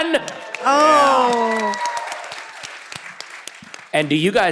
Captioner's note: audience cheering